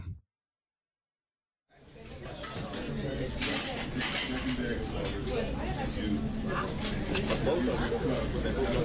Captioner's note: cafeteria sounds